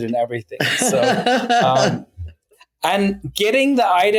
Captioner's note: laughing